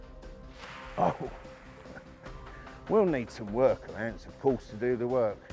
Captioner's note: laughs